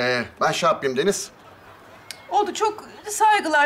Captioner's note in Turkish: Gülme efekti